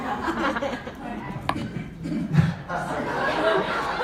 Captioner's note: audience laughs